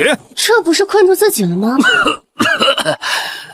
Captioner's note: cough cough